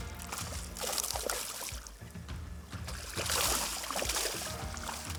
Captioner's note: upbeat music; water splashes